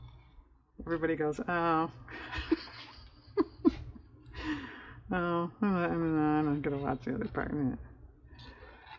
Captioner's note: laughs